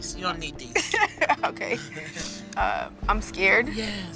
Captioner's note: chuckles